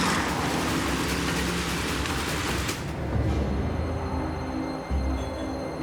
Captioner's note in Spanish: Ruido del motor de un auto